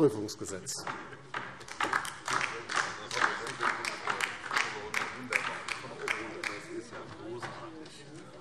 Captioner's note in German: Beifall DIE LINKE